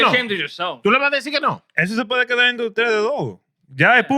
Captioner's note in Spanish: Hablando en idioma extranjero